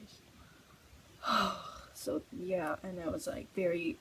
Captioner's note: heavy sigh